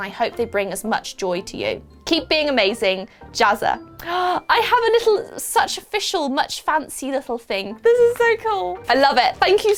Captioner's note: gasp